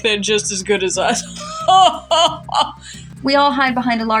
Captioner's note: laugh; haughty Laugh